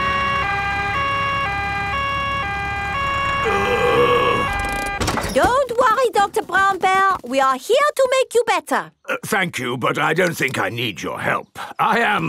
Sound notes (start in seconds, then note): 0.0 siren wailing; 3.4 groaning